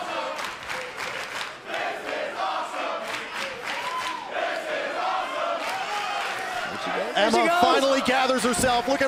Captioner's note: crowd cheering